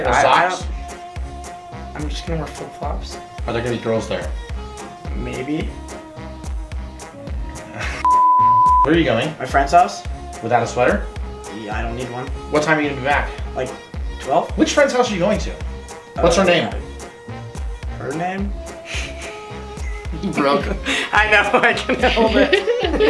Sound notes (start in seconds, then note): 7.6 laughing; 8.0 beep; 19.7 laughing